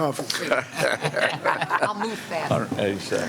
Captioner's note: laughter